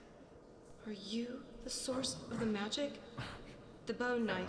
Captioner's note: whisper